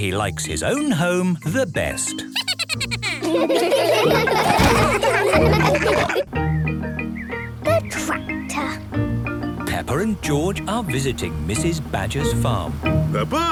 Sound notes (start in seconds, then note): 2.2 Steven giggles; 4.2 all laughing